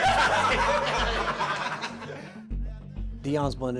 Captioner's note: laughter